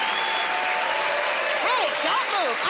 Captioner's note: cheering and applause; whistling